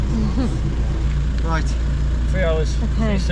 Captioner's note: laughing